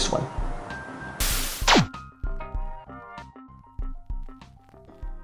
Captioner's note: laser buzzing